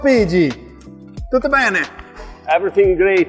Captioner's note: speaking in foreign language